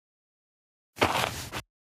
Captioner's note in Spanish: FX - Footsteps - On Multiple Dirt - Walk